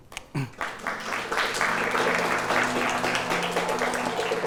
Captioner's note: applause